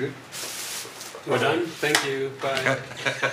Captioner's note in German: englisch